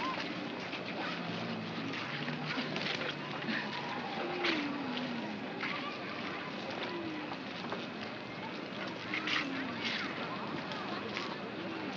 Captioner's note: city street sounds